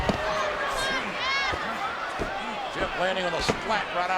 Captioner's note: body thuds